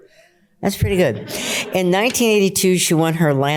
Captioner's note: laughter